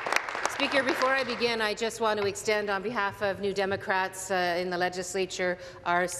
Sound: applause

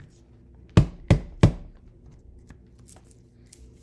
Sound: grinder taps

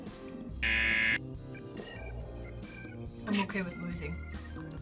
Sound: buzzer

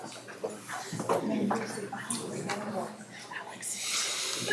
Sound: quiet chattering

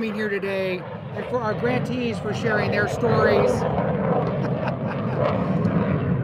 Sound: laughs

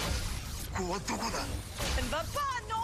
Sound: speaking Japanese; woman Speaking French

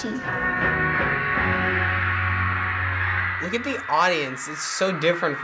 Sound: audience cheering

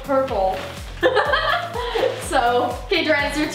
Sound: laughing

